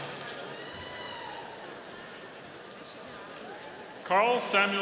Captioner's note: audience cheering